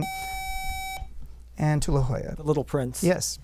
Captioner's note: buzzer